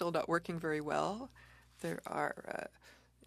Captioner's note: speaking French